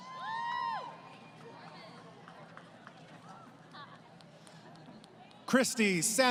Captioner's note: crowd Cheering